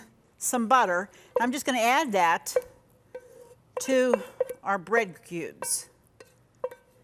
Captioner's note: scraping pan